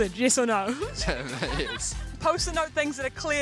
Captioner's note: laughing